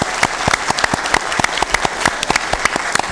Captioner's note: applause